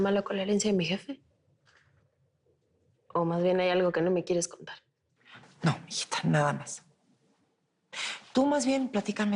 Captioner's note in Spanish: none